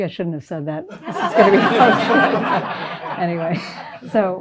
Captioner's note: laughter